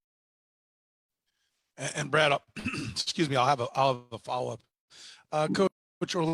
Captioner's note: cough